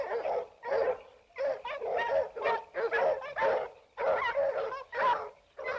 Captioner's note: dogs barking continues